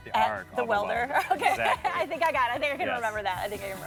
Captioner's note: laughs